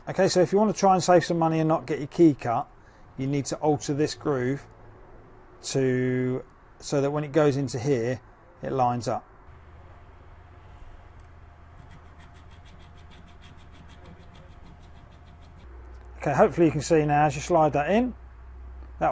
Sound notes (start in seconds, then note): 11.7 metal filing